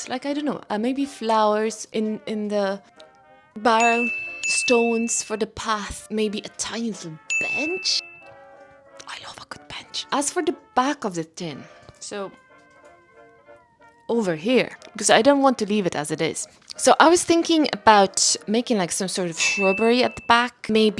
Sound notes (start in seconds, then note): 8.9 whispers